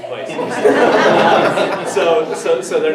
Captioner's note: everyone laughs